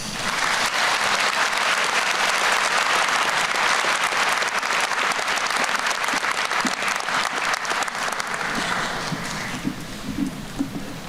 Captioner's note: applause